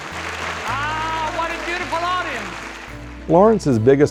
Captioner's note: applause